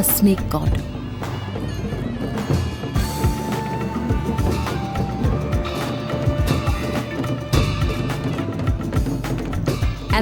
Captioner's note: soft upbeat music; metal clanking; reed pipe sound